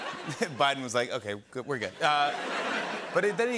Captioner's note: laughter